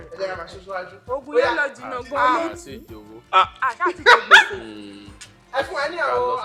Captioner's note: laughs